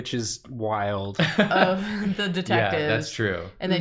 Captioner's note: laughs